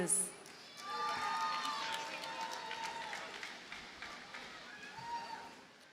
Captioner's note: audience cheers and applauds